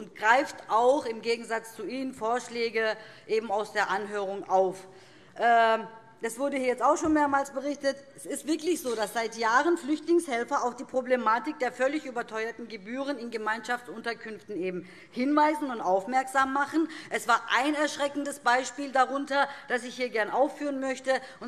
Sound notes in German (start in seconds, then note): none